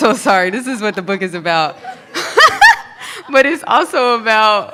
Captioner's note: laughs